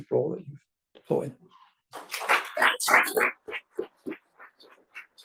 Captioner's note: audience applauds